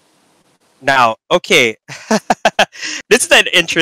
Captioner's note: laughs